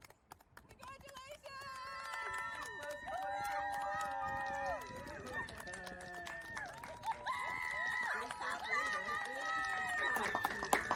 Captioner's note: clapping and cheering